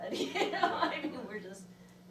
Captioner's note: laughs